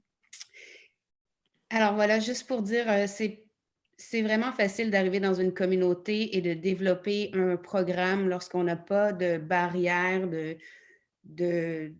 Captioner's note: in French